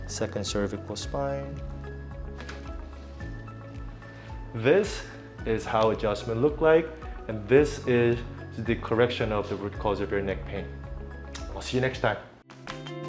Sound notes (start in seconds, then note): 2.4 neck pops